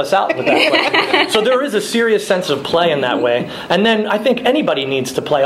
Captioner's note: laughing